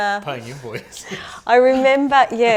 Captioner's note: laughing